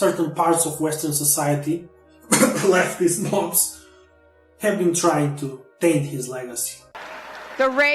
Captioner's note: cough